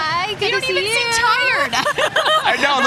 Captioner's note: laughing